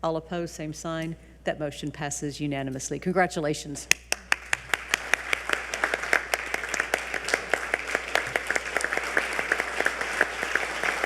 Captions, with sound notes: All opposed, same sign. That motion passes unanimously, congratulations. (audience applauding)